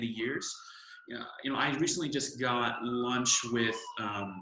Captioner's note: siren